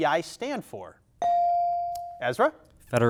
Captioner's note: buzzer dings